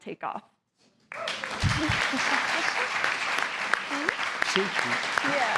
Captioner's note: applause